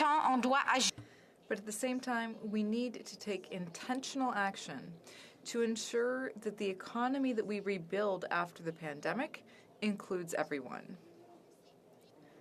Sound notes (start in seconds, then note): 4.5 speaking French